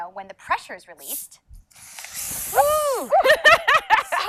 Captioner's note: laughing; squeals